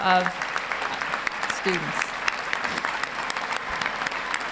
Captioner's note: applauding